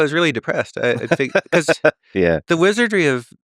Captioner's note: Lex laughing